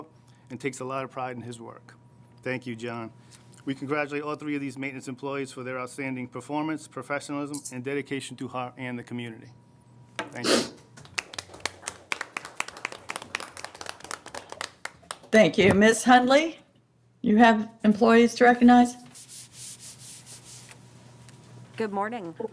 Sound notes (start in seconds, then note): 11.0 applause